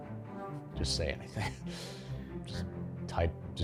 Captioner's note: laughs